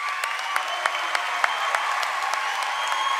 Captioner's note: applause